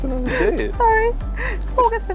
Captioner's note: laughing